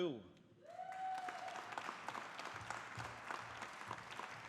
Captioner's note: audience applauding